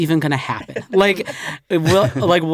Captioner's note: laughter